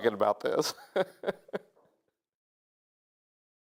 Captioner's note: laughs